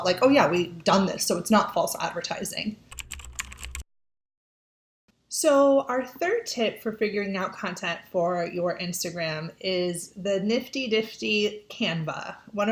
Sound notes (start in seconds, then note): 2.9 keyboard clicking